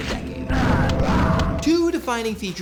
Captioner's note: gunshots